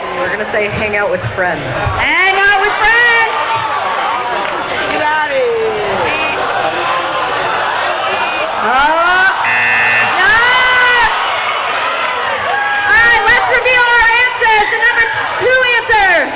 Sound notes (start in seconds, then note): 9.4 buzzing